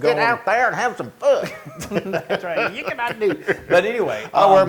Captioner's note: laugh